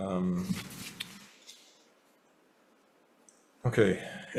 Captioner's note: papers flapping